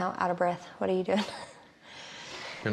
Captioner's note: chuckles